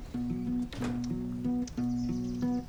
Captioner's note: door close; soft music playing